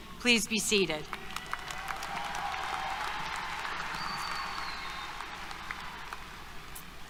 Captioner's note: applause, Cheers